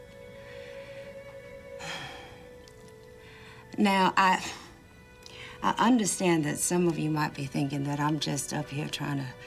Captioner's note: sighs